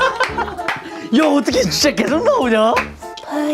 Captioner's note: laughing hysterically